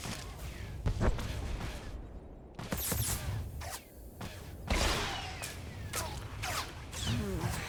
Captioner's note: gun firing